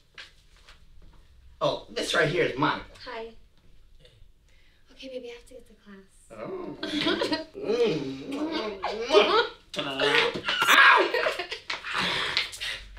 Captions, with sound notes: - What's up. - Oh, this right here is Monica. - Hi, okay baby, I have to get to class. (giggling) (growling)